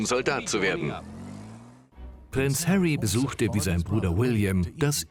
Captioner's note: voiceover